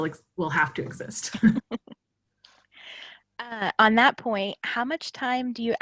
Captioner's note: laughing